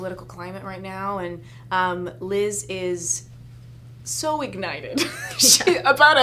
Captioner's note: laughs